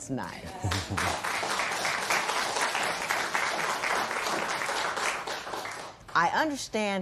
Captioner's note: applause